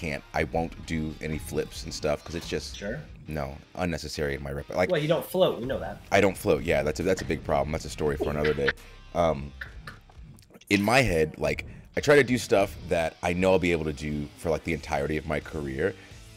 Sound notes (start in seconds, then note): 8.2 laugh